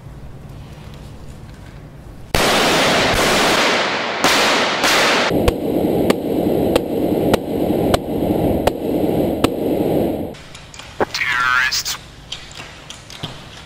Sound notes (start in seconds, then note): 2.3 gunshots